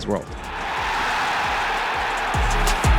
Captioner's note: crowd cheering